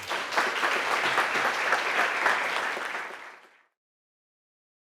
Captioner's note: audience applauding